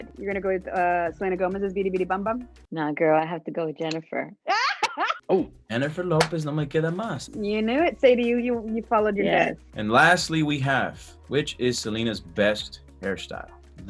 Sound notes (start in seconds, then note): 4.5 laughs